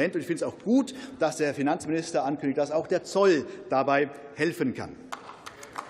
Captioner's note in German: Beifall